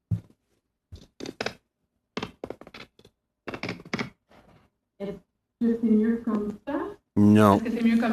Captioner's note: speaking French